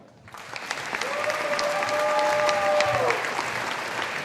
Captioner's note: audience applauding